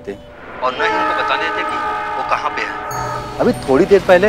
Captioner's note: Sound of trains